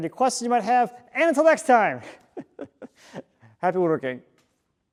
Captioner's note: chuckles